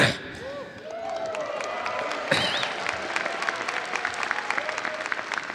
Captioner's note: audience cheering and applauding